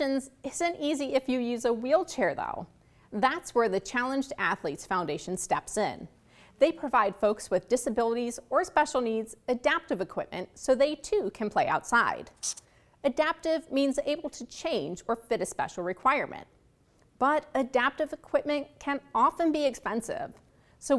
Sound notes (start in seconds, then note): 12.3 marker scratches